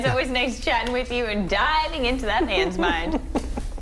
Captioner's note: laughter